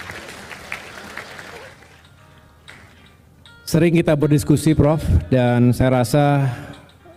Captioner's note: applause